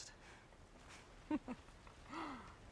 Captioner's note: Melengal laughs